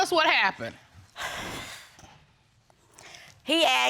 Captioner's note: sighs